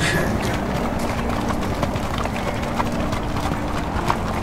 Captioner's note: marching sounds